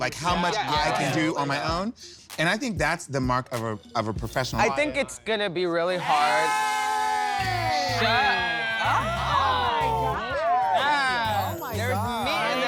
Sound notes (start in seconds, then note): 7.8 overlapping cat calls